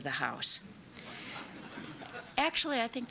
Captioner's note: laughter